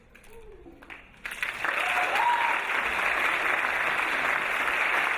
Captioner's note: audience clapping